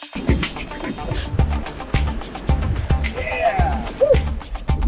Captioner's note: upbeat rock music; loud wind gushing